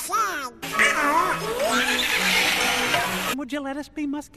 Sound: dying duck noises

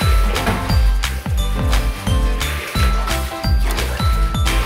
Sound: splashing

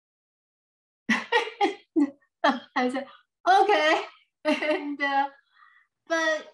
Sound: laughs

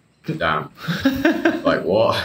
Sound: laughing

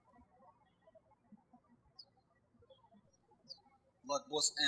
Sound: birds chirping

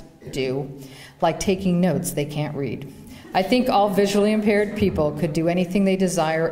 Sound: laughter

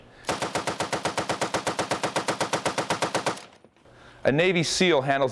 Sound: gun firing rapidly

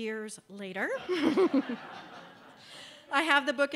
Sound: laughter

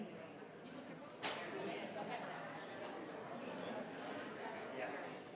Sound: crowd chattering continues

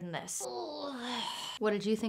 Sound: groan of large cat-lifting

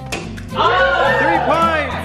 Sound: group cheers

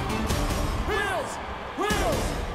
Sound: chanting

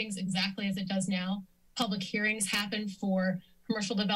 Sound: none

